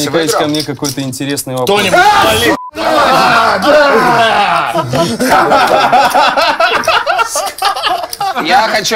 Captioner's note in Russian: смех